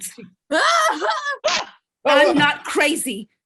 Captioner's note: screams